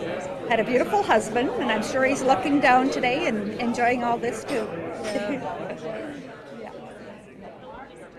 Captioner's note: laughs